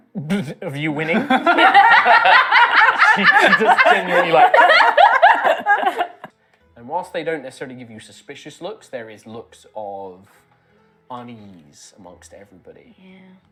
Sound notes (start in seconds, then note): 1.0 laughter; 1.0 stifles a laugh